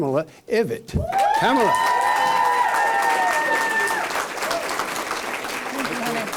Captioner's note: cheers and applause